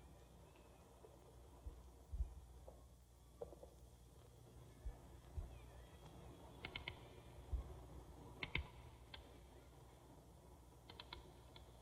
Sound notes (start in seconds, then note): 5.3 children Chattering, Faint